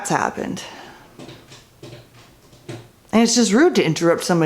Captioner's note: loud pawing noises from litter box